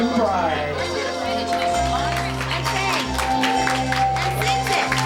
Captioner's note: everybody applause